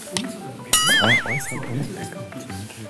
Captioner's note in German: Murmeln, verspielte Musik